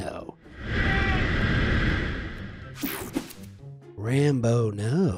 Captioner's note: soldier screams